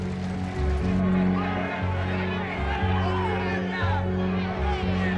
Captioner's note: crowd shouting